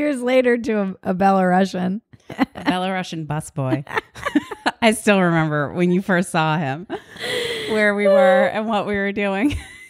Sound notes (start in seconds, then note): 3.8 both laugh